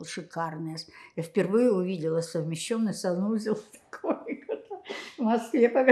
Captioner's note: laughing